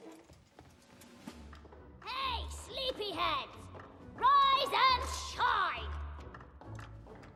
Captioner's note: shouting